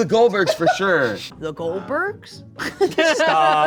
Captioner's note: laughs